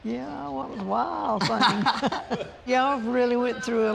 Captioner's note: both laugh